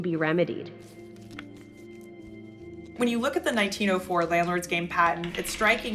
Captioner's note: soundbite of cards shuffling